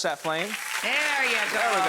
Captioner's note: audience applause